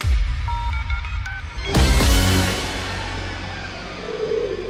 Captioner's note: beeping sounds